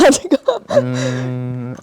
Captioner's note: laughs